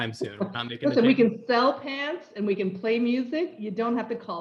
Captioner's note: laugh